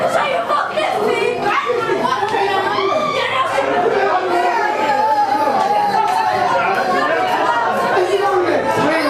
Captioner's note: child crying